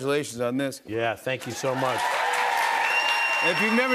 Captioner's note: cheers and applause